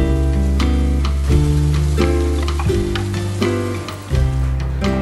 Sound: rain falling

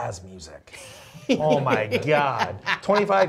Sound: laughs

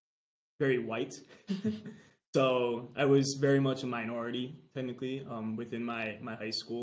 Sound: chuckles

